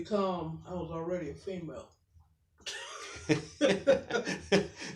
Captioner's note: laughs